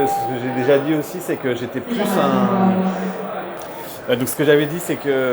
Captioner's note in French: Annonce en allemand